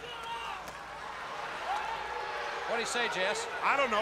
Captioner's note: crowd chatter